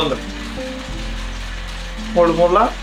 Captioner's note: constant hum and clatter